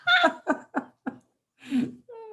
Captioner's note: laughter